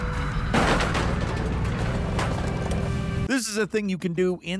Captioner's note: truck thudding